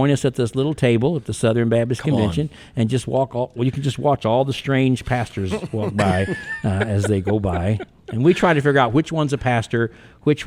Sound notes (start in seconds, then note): 5.4 podcasters chuckling